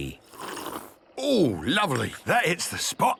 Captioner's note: sipping